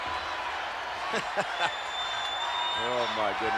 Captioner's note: chuckling